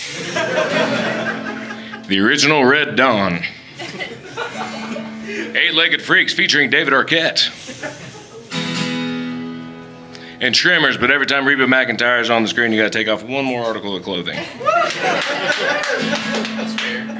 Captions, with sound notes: [Audience Laughing] The original "Red Dawn" hehheherlarm Eight Legged Freaks featuring David Arquette [Audience Laughing] And Tremors but everytime Reba McIntyre's on the screen You gotta take off one more article of clothing [Audience Laughing]